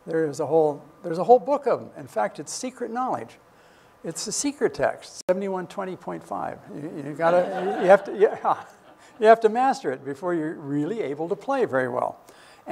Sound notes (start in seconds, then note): 7.2 laughter